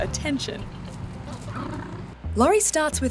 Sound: penguin braying

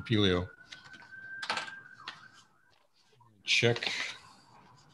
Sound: ambulance bellows in the background

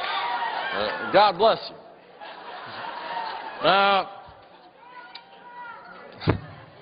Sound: laughter

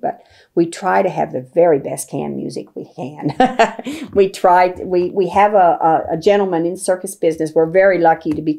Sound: laughs

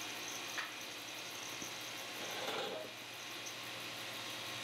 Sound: pantograph whirring

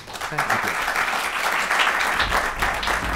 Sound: applause

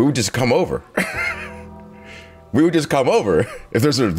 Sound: laugh

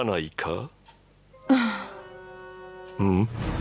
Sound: sigh

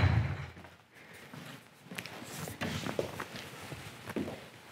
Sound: light footsteps

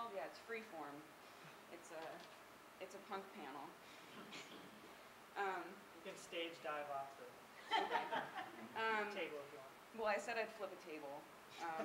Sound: laughing

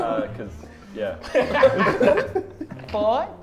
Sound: Sidemen laugh

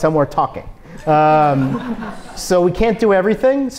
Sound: audience laughs

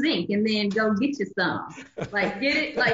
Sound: laughs

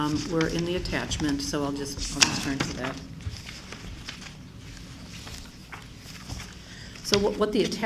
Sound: flipping pages

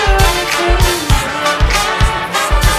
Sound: the sound of the horns

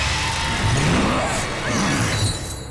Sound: grunting

